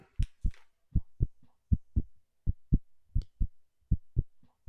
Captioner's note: heart beats